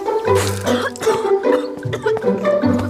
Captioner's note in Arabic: سعال